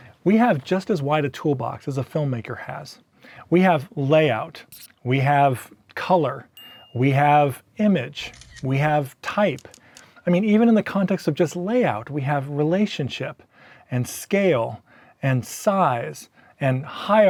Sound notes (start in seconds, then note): 6.5 ding; 8.3 click; 9.5 typing